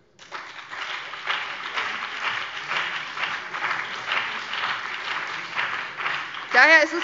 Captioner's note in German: Beifall BÜNDNIS 90/DIE GRÜNEN, DIE LINKE, vereinzelt CDU und SPD